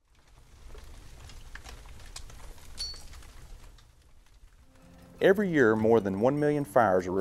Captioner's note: fire crackling